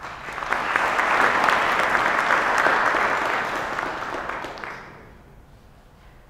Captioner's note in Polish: oklaski